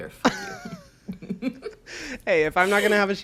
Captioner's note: both laugh